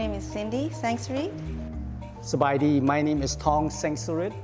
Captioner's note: speaks native language